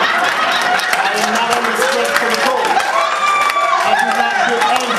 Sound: audience laughs; audience cheers

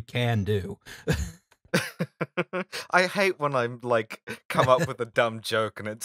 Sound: laughter

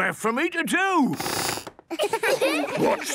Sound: squeaks

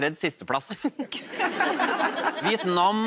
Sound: laughter

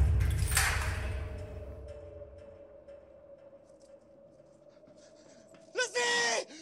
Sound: Zhozef shouting in foreign language

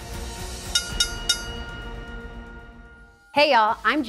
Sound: bell dings

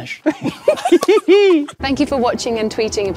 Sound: group laughs

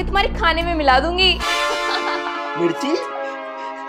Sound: laughing

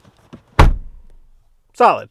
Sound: door slamming

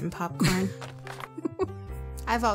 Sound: laughs

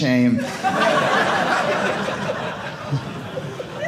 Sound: audience laughing

